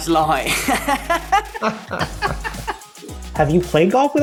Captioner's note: laughter